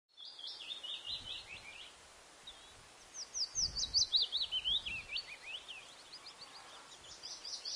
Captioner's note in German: Vogelgezwitscher